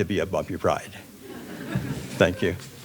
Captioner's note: audience laughing